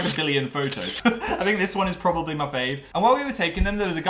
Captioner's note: laughs